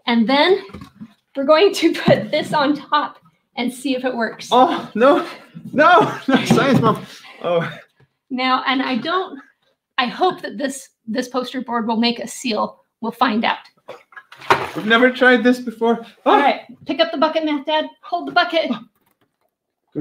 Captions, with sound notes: And then, we're going to put this on top, and see if it works. - Oh, no! No! No, Science Mom! Oh! (laughing) - Now, and I don't, I hope that this poster board will make a seal. We'll find out. (water splashing) - We've never tried this before! (exclaiming) - All right, pick up the bucket, Math Dad! Hold the bucket!